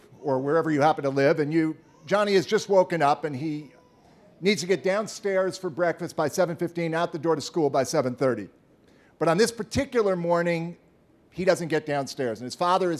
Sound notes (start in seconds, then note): 0.0 baby crying